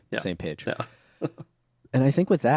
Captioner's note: laughs